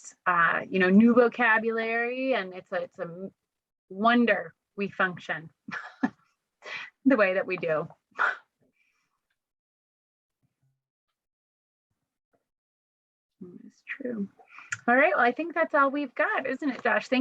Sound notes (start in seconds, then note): 5.7 laughter